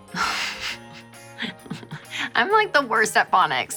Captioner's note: giggling